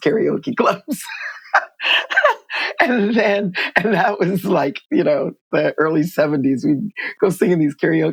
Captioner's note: laughter